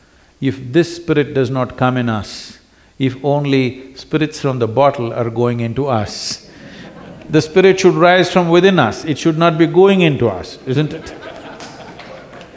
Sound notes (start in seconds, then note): 6.2 few laugh; 10.3 laughter